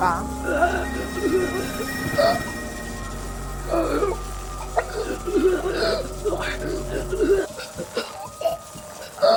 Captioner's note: Mandarin language; choking and gurgling; fighting for breath